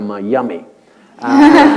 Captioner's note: laughter